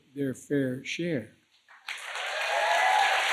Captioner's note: applause